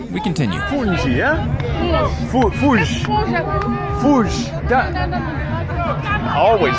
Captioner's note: people speaking in foreign language